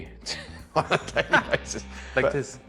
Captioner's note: laughs